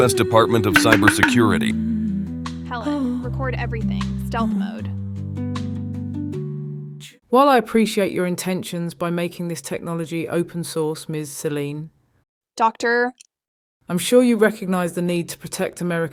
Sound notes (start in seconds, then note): 2.6 whispers